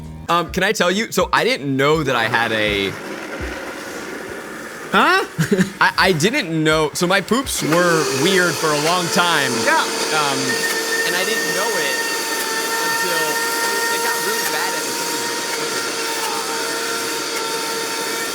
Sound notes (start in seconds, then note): 13.4 loud blending noise